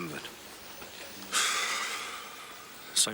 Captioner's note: Dave sighs